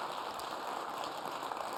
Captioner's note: applause